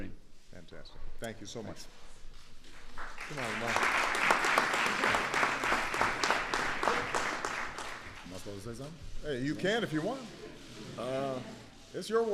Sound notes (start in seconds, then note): 2.9 applause